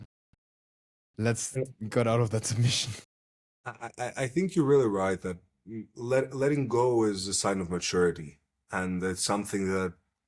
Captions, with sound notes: let's get out of that submission." [laughs] I, I, I think you're really right that l- letting go is a sign of maturity. And it's something that